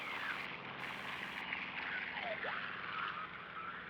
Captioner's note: static crackling